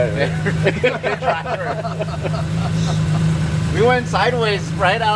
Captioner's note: everyone laughing